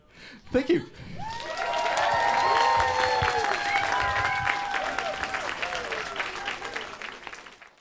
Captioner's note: audience applause and cheers